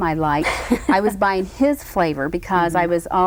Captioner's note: Cruz laughs